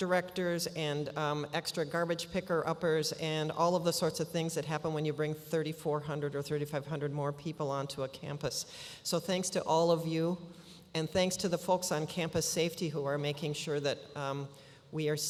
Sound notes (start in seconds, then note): none